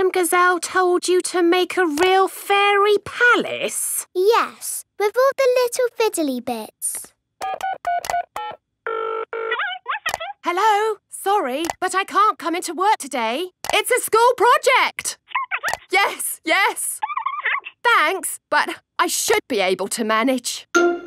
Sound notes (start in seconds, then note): 7.4 dials phone; 9.4 on phone